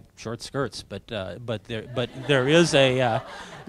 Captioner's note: audience laughing